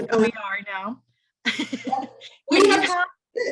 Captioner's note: laughs